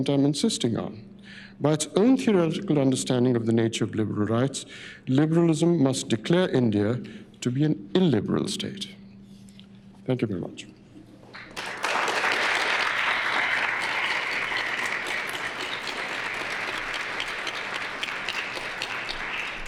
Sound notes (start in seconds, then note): 11.3 applause